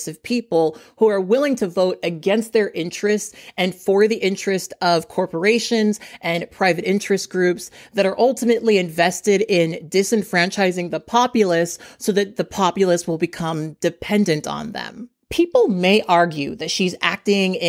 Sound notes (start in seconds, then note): none